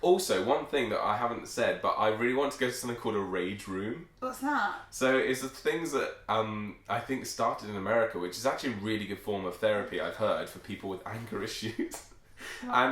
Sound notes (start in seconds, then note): none